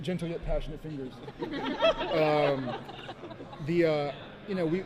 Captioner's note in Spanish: Risas